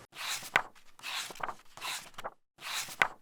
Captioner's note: pages turning